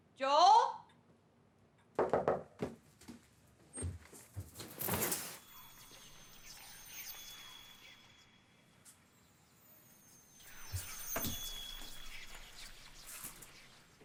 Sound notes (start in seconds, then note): 2.0 fist rapping; 4.2 curtains scraping; 5.0 ominous whispers